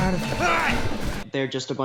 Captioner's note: yells